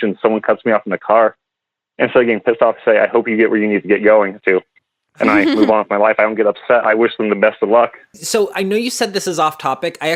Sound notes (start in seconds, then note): 5.2 laughs